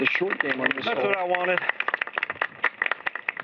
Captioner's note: applause